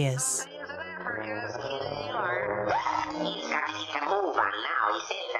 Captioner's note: sailor slurring words